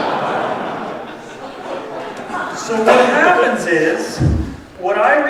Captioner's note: laughter